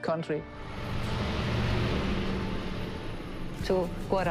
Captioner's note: bus engine rumbles